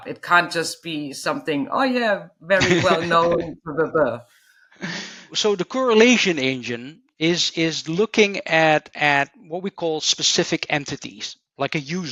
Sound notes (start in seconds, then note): 2.6 chuckling